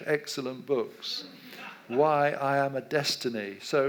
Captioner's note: audience laughs